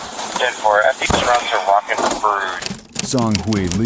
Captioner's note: radio chatter